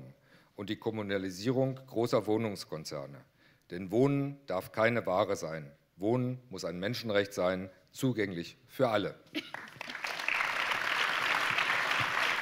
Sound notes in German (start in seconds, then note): 9.4 Applaus